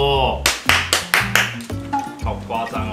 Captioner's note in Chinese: 鼓掌聲